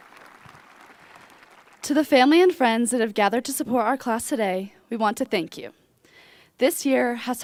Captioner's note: cheers and applause